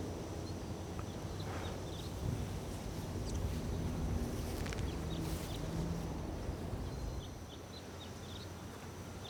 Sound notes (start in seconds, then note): 6.8 birds singing